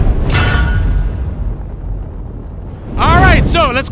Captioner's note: metal clanks